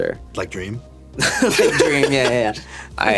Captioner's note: laughing